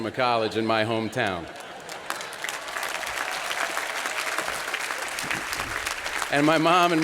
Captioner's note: applause